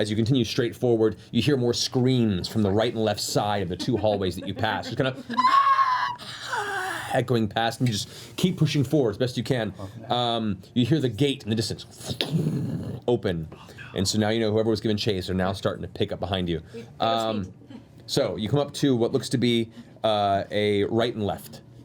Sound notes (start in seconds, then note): 5.3 screaming